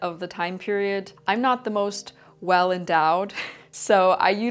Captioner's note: chuckles